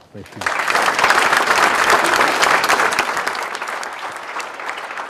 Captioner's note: applause